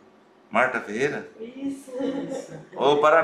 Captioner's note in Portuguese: risos